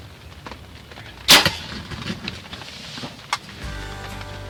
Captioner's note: bow string releasing; upbeat guitar music